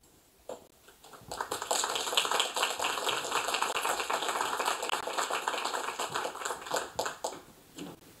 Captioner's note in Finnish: Aplodeja